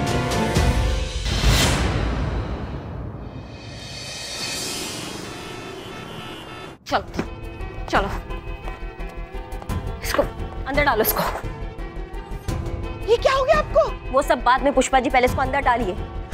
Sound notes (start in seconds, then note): 0.2 dramatic music; 4.7 traffic noise